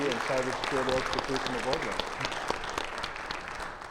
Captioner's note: applause